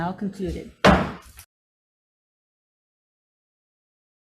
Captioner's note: gavel strike